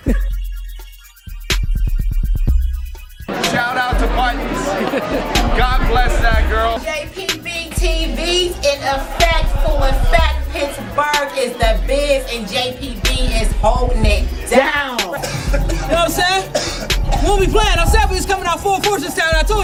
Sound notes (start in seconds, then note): 16.8 coughing